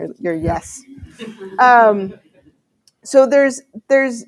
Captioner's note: laughter